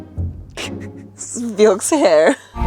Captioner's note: laughing